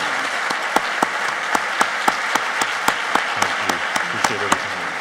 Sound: applauding

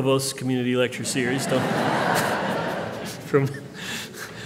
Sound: laughter

